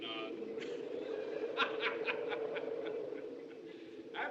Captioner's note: laughing